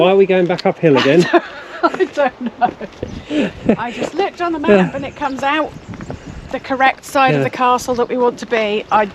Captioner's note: laughs